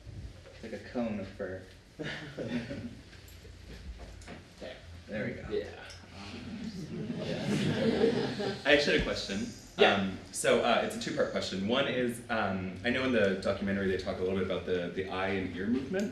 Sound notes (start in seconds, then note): 6.4 laughter